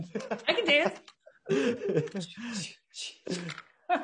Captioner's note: laughing softly